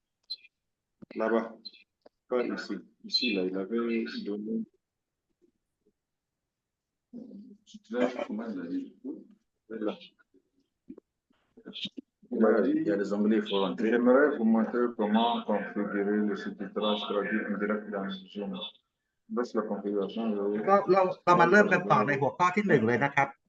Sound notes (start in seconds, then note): 7.9 laughter